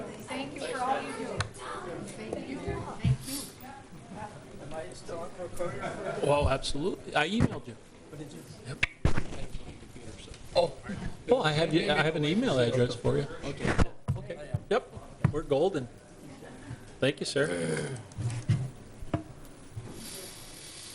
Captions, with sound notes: Thank you, thank you for all you do. (cheery chatter) Well, I have an email address for you. Okay. Yep, we're golden. Thank you, sir.